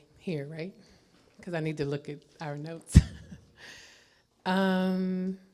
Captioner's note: laughs